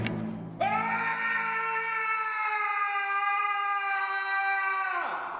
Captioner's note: echoing scream